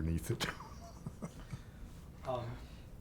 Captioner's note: chuckling